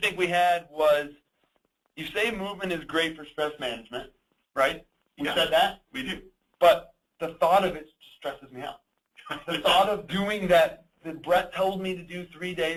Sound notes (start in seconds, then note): 9.2 laughs